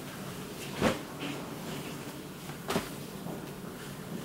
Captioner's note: clothing plopping